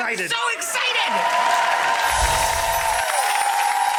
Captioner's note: audience applause